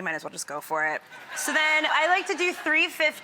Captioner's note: audience laughing